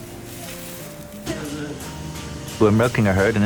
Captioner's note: hay rustling